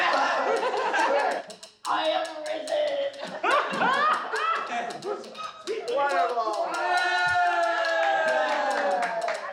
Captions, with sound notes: (laughs) I am risen! (laughs) It's incredible! (cheers and applauds)